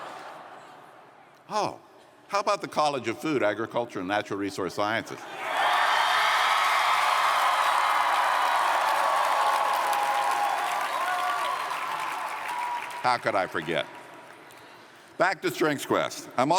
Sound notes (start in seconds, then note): 7.3 cheers & Applause